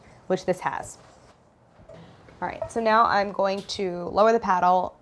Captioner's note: none